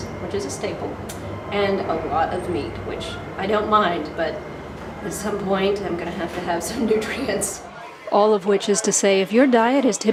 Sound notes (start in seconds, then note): none